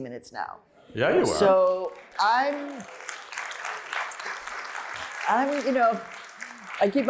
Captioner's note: applause